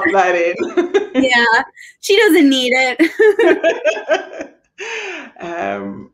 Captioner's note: laughing